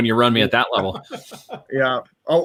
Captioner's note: laughing